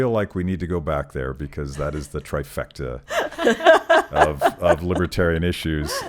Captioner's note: laughing